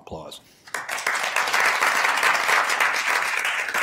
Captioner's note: applause